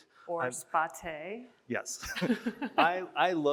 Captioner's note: chuckles